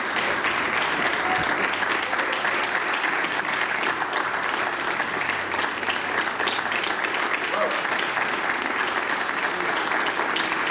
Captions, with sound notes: BETTER TOGETHER. WE ARE BETTER TOGETHER. [APPLAUSE]